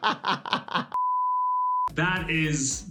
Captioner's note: laughing; beeping